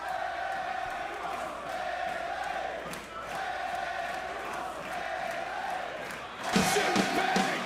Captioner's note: crowd cheering